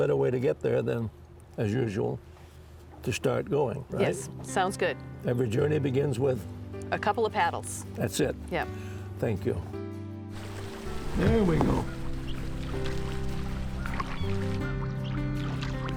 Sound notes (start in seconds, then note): 10.3 water splashing; 12.3 cheerful mid-tempo piano music; 13.7 water splashing